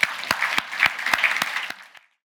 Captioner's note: audience applauds